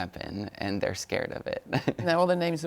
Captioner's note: laughs